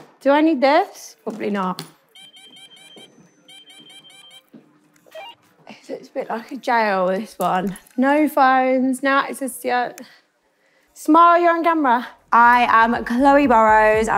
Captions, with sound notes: Do I need this? Probably not. [machine beeping] It looks a bit like a jail, this one. No phones, no access to the outside. Smile, you're on camera. I am Chloe Burrows.